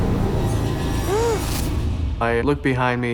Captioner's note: gasping